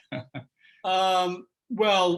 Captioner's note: laughter